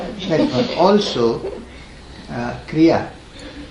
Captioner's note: laughs